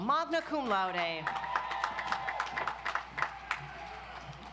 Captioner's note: audience applauds